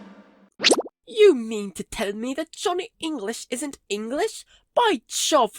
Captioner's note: in English accent